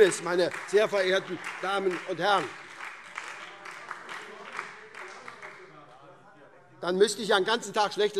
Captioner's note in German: Beifall - Weitere Zurufe